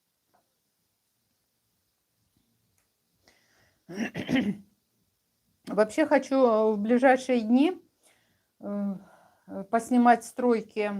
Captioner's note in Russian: откашливается